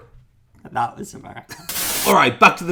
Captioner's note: static